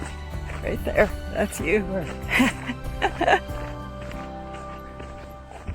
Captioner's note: laughing